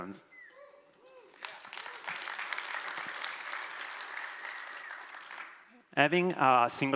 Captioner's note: applause